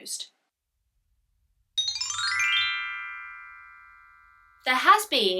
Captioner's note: chimes